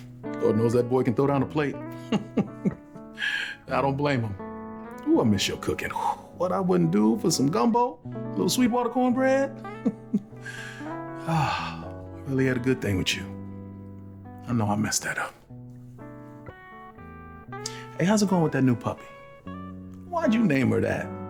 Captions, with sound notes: Lord knows that boy can throw down a plate. [laughing] I don't blame him. Ooh, I miss your cooking. What I wouldn't do for some gumbo, a little sweet water cornbread. [laughing] [exhaling] I really had a good thing with you. I know I messed that up. Hey, how's it going with that new puppy? Why'd you name her that?